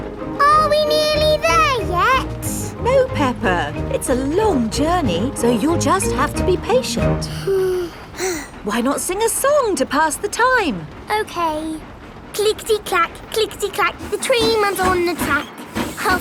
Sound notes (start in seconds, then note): 7.2 both sigh